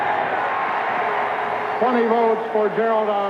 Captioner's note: cheering